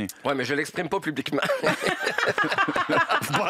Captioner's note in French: rires